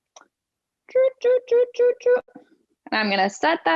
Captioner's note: beeping